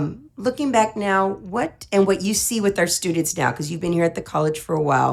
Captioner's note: none